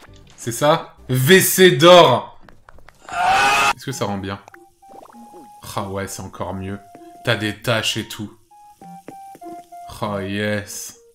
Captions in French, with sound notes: C'est ça? "WC d'or" [Extrait d'un cri intense] Est-ce que ça rend bien Rah ouais c'est encore mieux T'as des tâches et tout Rah yeees